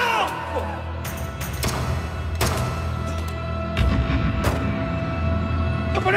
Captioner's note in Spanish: Disparo